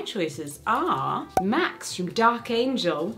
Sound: cork popping

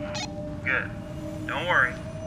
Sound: radio

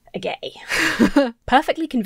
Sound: chuckles

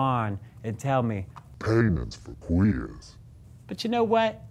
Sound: deep voice

